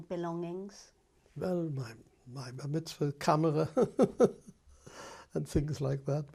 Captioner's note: laughs